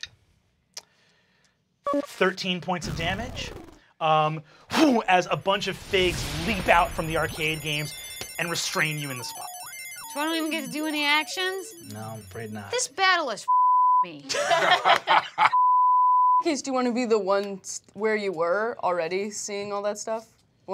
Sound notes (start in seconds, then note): 10.2 electronic whirring; 14.0 beep; 14.3 laughing; 15.5 beep